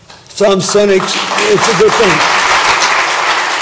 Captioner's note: applause